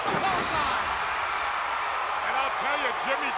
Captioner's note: crowd cheering